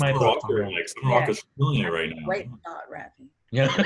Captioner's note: static drowns out